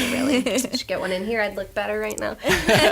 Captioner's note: laughs; laughter